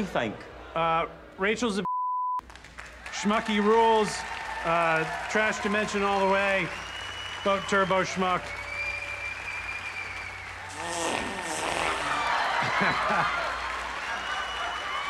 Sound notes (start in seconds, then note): 8.5 audience cheers, applauds; 10.6 farts; 11.0 audience laughs